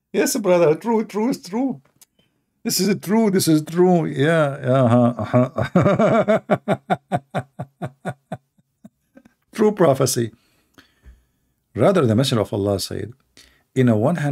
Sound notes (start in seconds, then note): 4.8 Ketawa